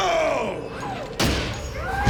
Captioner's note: screams